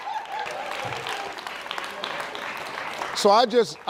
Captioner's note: audience claps